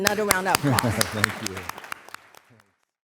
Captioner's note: applause